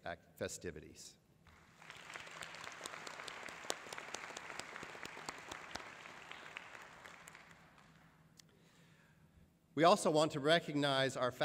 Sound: applause

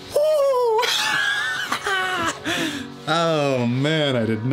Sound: laughs

